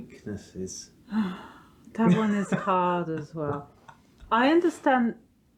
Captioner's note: sigh